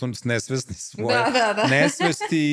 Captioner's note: laughter